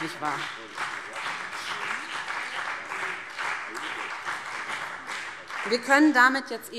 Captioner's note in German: Beifall BÜNDNIS 90/DIE GRÜNEN und CDU